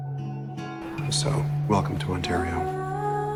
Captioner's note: voiceover